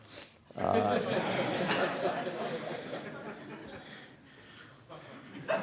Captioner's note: laughter